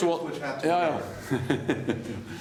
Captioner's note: laughter